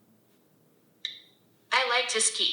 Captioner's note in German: Sprecher klickt